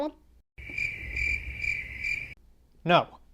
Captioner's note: crickets Chirping